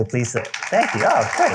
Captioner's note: applause